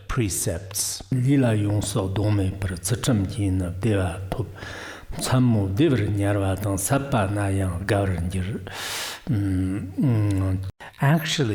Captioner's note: giving oral transmission in Tibetan